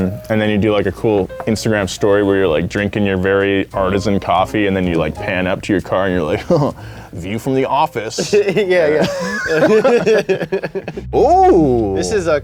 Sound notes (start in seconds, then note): 8.1 laugh; 8.1 chuckles